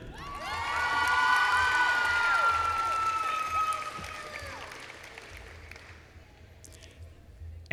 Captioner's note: applause